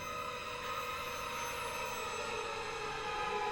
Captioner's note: none